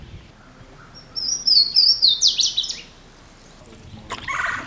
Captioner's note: birds singing